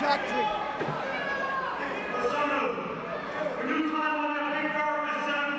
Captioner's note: crowd chatter